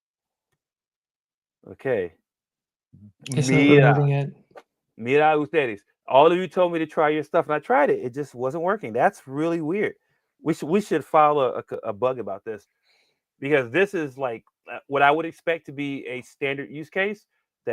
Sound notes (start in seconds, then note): 5.6 speaking spanish